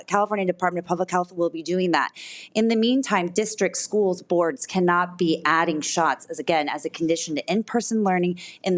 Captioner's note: none